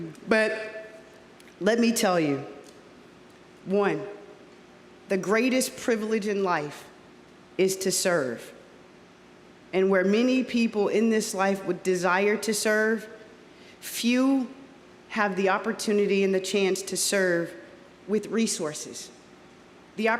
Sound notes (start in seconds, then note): none